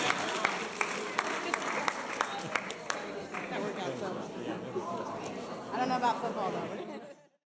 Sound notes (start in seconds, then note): 2.9 people talking